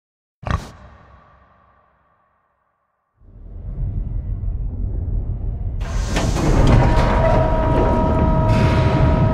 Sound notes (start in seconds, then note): 0.2 pig grunts